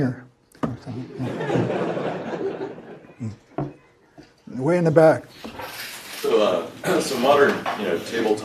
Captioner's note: laugh